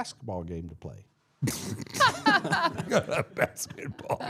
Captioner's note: everyone laughing